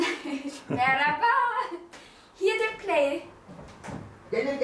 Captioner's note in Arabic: بالتركية